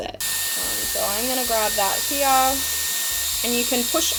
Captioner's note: hairdryer blows